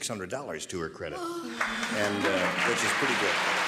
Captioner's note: applause